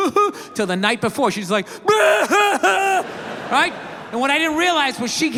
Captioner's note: imitates crying; imitates loud sobbing